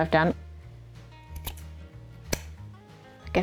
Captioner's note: snip snip